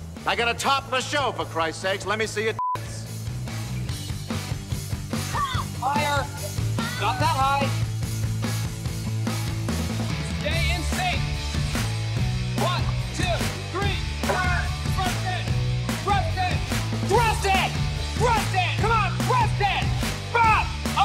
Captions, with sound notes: I got a topless show for Christ's sakes. Let me see your (beeps). (grunts) Higher! Not that high. Stay in sync! One, two, three, cut! Thrust it, thrust it! Thrust it, thrust it! Come on, thrust it, bop!